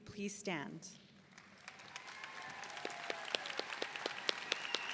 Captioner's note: audience cheering